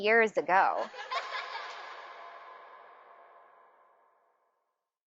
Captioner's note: children laughing